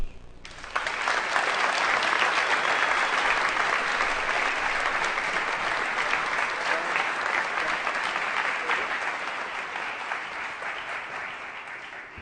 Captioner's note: applause